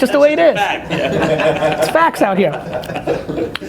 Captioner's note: all laugh